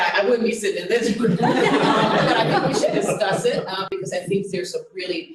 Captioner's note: laughter